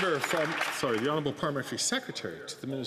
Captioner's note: some Applause